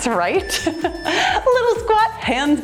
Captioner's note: timer beeps